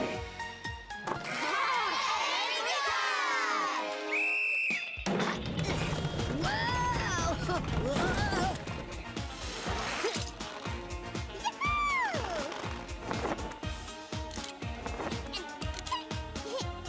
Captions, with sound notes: (all cheering) (whistle blowing) - Whoa! Whoa! (chuckles) - Ya-hoo! (grunting)